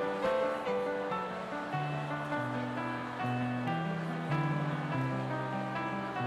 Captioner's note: crowd chattering; gentle piano music